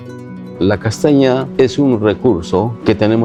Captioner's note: speaking spanish